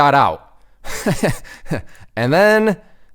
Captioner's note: laughs